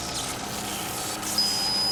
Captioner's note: high-pitched digital squeal